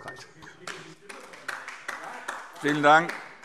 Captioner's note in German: Beifall DIE LINKE